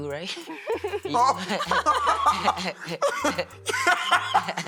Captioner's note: laughter